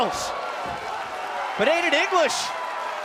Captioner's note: cheers & applause